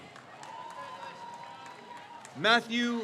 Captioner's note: crowd cheers